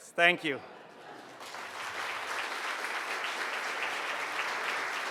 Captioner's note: audience clapping